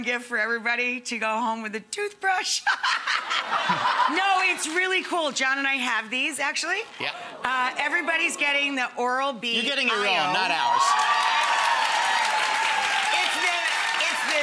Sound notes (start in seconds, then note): 2.6 laughing; 2.7 audience laughing; 10.5 audience applauding